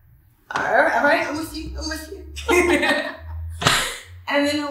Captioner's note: laughs